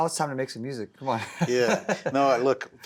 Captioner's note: laughs